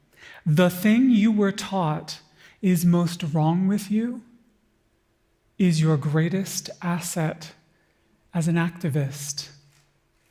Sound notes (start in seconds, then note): none